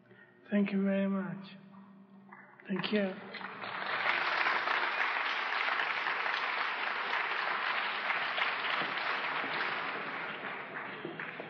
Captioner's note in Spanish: Aplausos